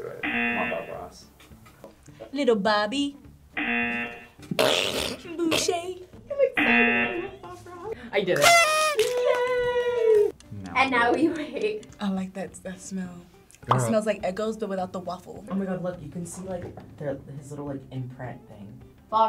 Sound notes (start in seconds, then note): 0.2 buzzer; 3.6 buzzer; 4.5 snorts; 6.6 buzzer; 6.6 horn honks; 11.9 laughs